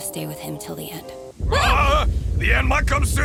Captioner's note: yelling